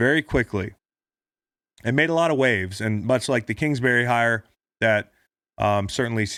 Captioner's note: none